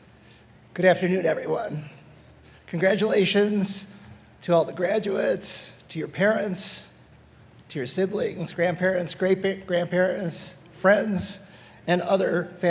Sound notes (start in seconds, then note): none